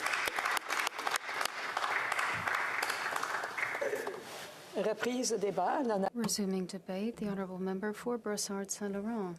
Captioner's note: applause